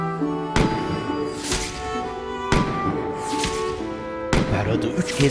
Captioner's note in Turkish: Silah sesleri